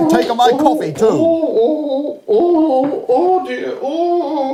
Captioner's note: sobbing